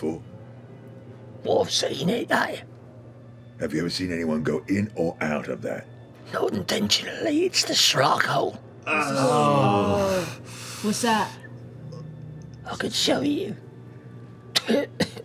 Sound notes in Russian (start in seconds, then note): 8.8 стонут; 14.5 кашляет